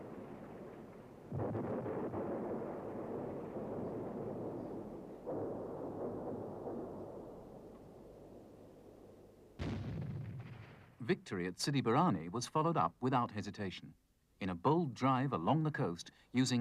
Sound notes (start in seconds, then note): 2.3 bombs exploding; 9.6 airplane explodes